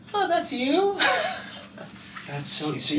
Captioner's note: laughing